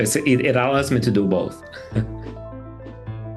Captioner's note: laughter